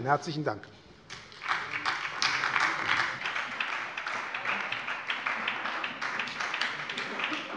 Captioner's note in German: Beifall bei der SPD